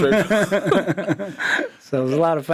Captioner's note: all laughs